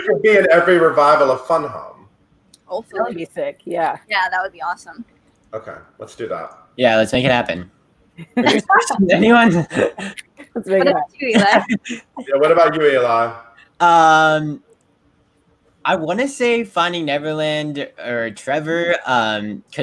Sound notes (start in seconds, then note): 8.2 group laughing; 10.3 snaps